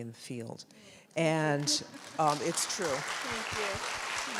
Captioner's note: audience applauds